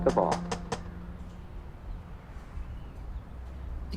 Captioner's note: door knocks